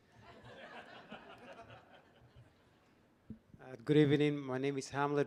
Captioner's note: audience laughing